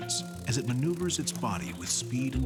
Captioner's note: wings buzzing